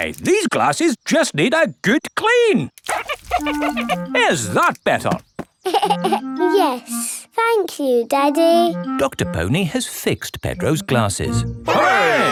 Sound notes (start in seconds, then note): 5.6 giggles